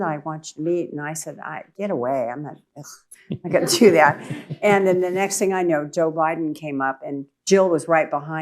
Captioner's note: laughter